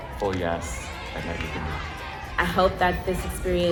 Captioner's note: cheering drowns out speaking